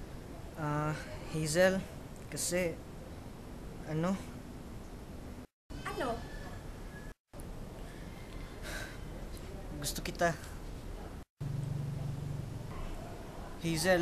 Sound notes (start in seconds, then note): 8.4 sighs